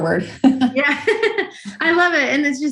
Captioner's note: laughs